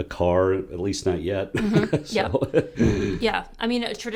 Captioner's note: laugh